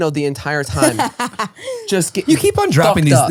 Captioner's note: laughing